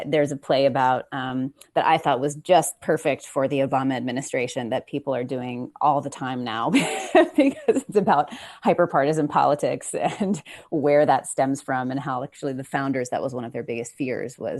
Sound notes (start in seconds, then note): 6.7 chuckles